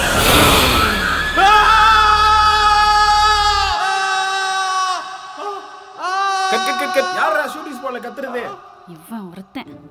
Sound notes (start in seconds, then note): 0.1 ghost screaming; 0.2 suryah screaming